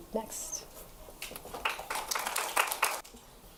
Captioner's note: applause